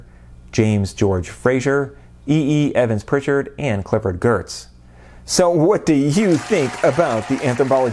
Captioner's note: applause